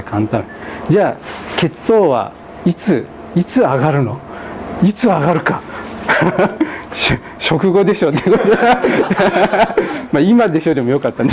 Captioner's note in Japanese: 笑い